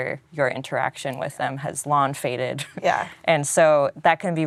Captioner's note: laughs